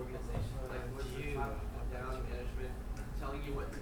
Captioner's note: speaking in foreign language